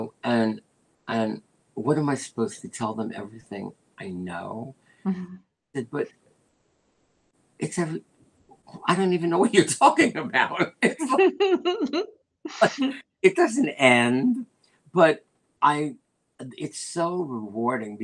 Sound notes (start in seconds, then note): 10.6 laughter